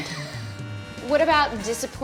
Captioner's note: laughs